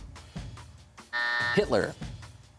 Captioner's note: buzzer